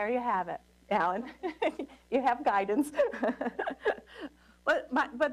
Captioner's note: laughter